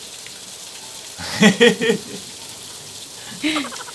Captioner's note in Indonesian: tertawa